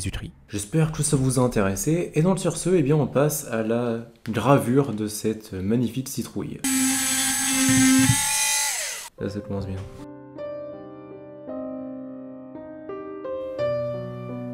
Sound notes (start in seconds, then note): 6.6 noise of drill